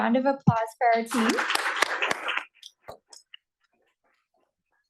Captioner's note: applause